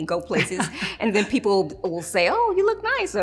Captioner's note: laughs